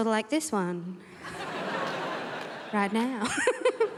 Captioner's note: crowd laughs